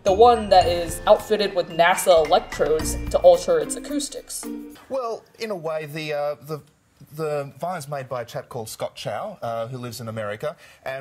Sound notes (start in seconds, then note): none